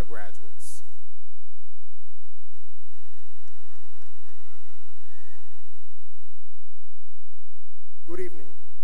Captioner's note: cheering and applause